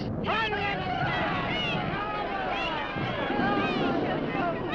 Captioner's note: crowd yelling